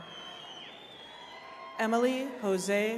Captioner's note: attendees cheering